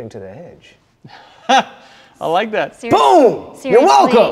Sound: laughs

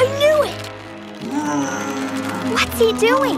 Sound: groaning

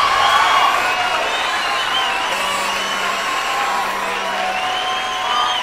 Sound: heavy Applause

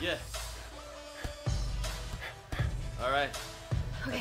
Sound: fists pounding

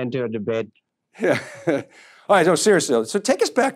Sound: chuckles

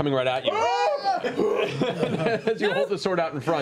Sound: screams

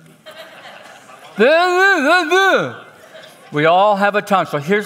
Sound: speaks gibberish

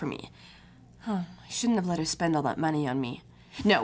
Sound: sighs

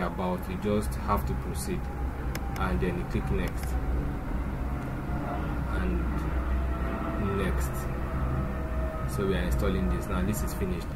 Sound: plane Overhead

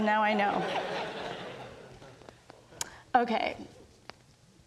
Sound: audience laughs

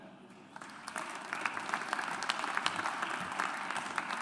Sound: audience applauds

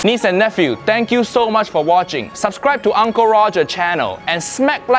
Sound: none

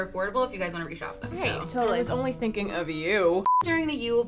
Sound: beep

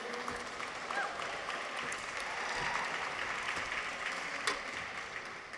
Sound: audience applauds

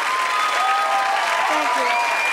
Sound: audience applauding

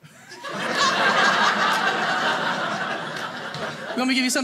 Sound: audience laughing

